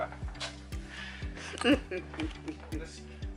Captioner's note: laughing